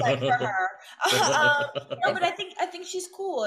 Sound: Raffy and Storm laugh

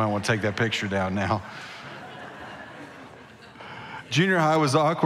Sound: congregation laughing

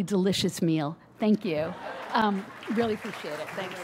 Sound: audience laughs and claps

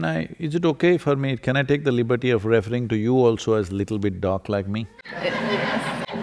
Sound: laughter

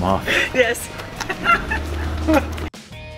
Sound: giggling; upbeat music

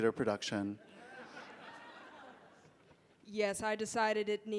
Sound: audience laughing

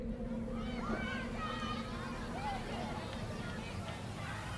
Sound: voices in background

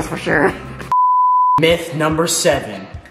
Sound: beep

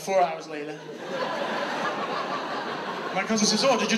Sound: audience laughs

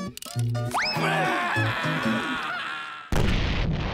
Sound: screaming

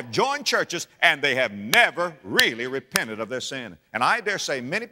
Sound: clap

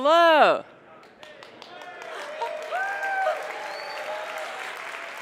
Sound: applause

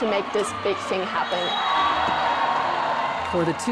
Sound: audience cheers

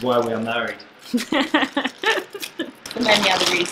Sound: laughs

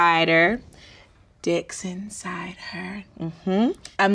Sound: whispers

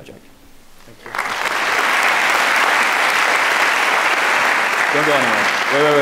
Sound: audience clapping

